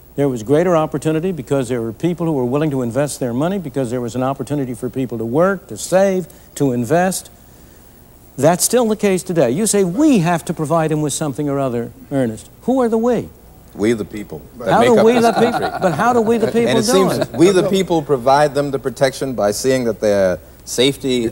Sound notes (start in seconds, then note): 14.8 laughter